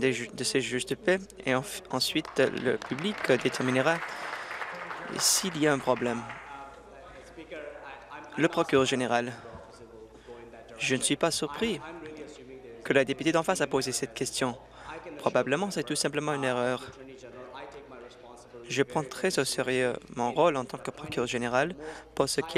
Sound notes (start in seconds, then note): 5.3 applause